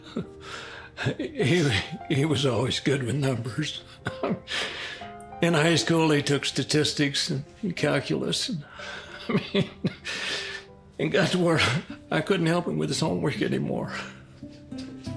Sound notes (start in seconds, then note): 0.1 chuckles